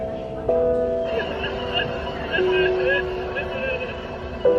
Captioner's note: woman sobbing